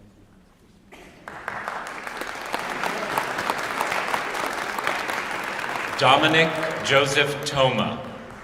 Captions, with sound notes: [ Applause ] Dominique Joseph Toma.